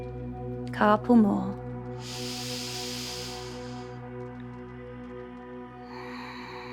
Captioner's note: inhales; exhales; calm music